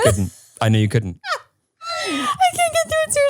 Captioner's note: laughs